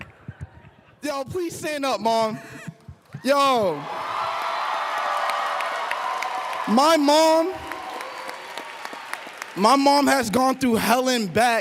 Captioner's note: applause